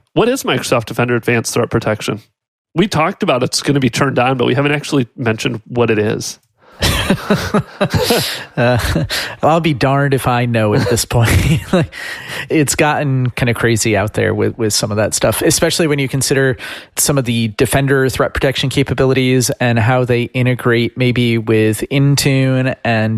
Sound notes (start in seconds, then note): 6.8 laughing